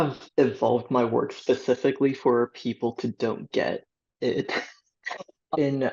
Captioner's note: laughter